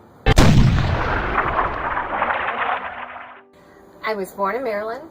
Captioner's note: thundering